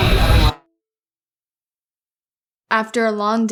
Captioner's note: silence